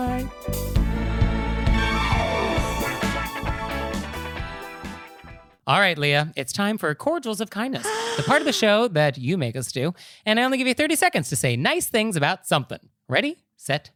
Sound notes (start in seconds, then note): 7.8 gasping